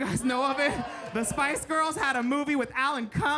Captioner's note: audience members cheering